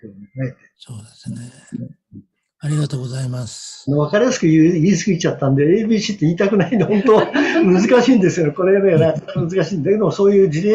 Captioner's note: laughs